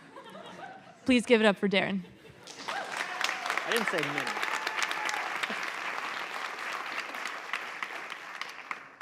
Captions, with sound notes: [LAUGHTER] Please give it up for Darren. [APPLAUSE] I didn't say minutes.